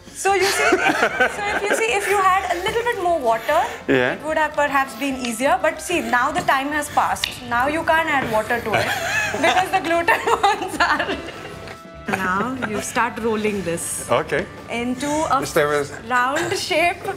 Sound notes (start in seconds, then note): 12.0 laughs